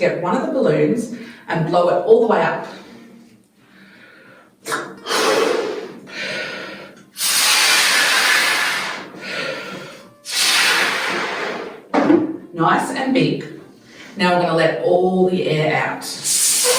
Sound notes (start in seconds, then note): 6.8 breathes into the balloon; 16.2 balloon squeaks, releasing air